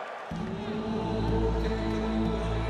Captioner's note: crowd cheering